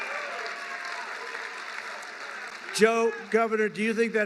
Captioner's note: applause